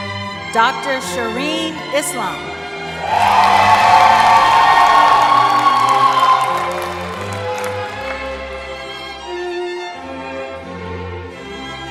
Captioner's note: cheering